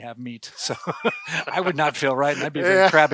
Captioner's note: both laugh